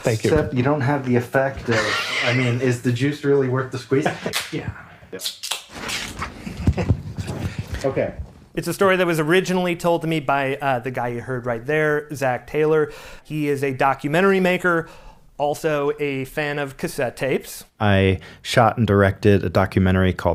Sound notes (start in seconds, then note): 5.2 cans open